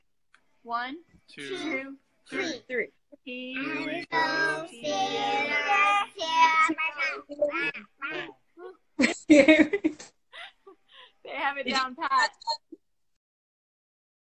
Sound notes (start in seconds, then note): 6.6 all grunting; 9.0 woman giggles